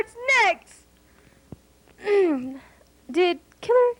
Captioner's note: clears throat